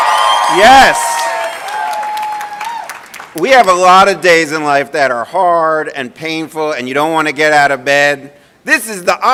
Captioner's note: cheering and applause